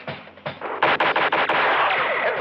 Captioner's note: gunshots